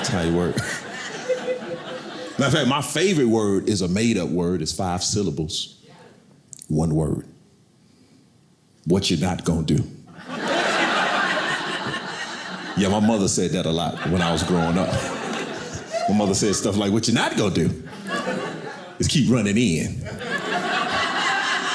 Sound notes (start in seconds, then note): 0.0 audience laughing; 10.3 audience laughing